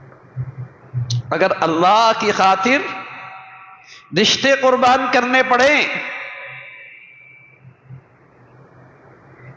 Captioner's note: sigh